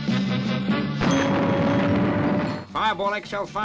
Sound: dramatic music; engine roars

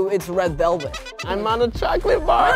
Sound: squeaker squeaking

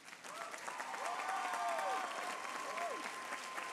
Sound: applause

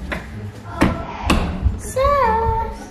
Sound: door clunking

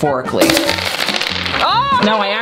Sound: marbles hitting table

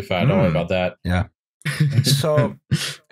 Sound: laughs

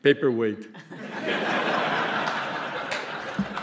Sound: laughter

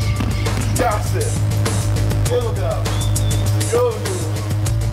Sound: speaking Korean

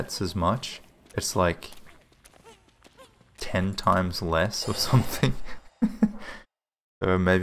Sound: laughs

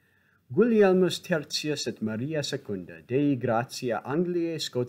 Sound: speaking in Latin

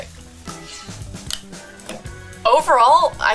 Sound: eating

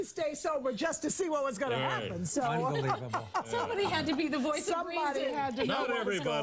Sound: laughter

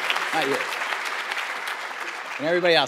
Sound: audience applauding

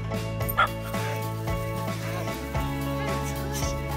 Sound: dog barks

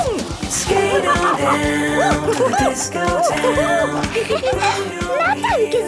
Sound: laughing and exclaiming

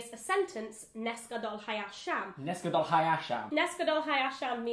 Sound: speaks in Hebrew

